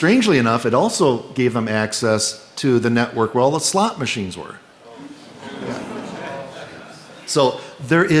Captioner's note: laughter